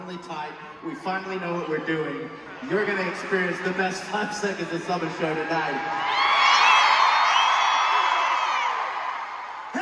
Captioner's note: crowd cheering